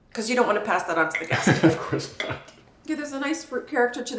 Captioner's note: chuckles